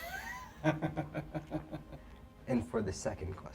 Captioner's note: David laughs